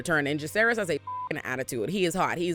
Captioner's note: beep